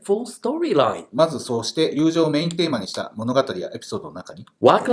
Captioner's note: speaking Japanese